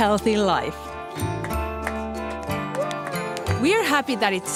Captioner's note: clapping